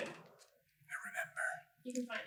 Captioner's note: whisper